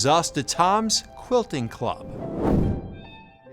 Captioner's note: air whooshes